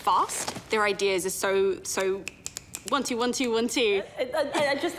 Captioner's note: clicks fingers